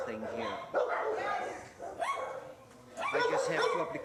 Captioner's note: dogs barking